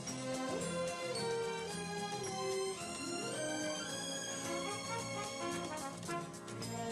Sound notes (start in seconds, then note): 4.7 horns!!!